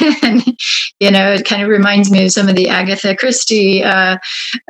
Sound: laughs

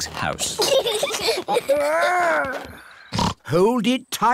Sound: both giggling; snorts

